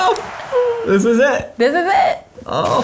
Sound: game cheering noises

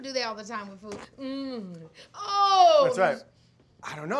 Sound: Keke groaning over the food

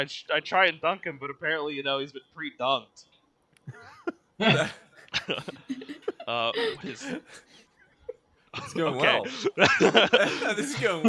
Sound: laughter

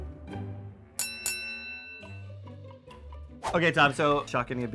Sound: chiming

